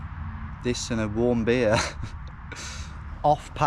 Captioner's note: chuckles